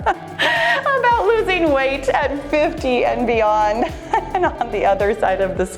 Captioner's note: laughs